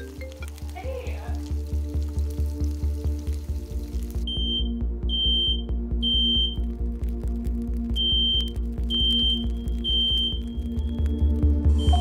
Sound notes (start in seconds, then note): 1.8 suspenseful music; 4.7 smoke alarm blaring